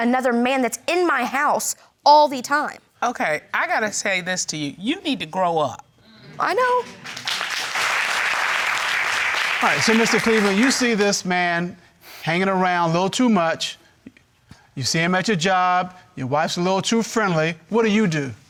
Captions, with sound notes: that's in my house all the time. Okay, I got to say this to you, you need to grow up. I know. (APPLAUDING) All right, so, Mr. Cleveland, you see this man hanging around a little too much, you see him at your job, your wife's a little too friendly, what do you do?